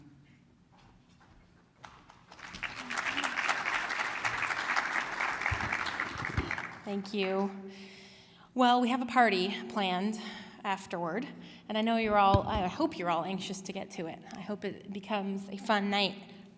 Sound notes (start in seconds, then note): 1.8 applause